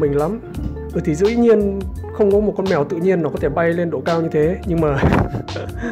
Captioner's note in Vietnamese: cười